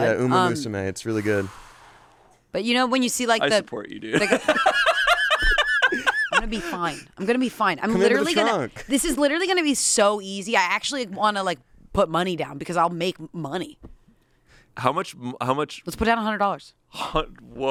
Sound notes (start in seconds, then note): 4.1 laugh